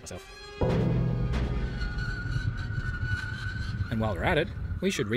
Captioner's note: horrible scraping noise